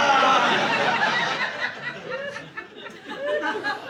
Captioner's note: audience laughing